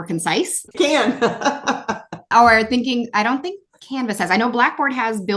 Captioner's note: laugh